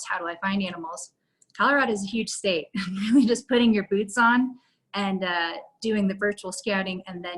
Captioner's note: laughter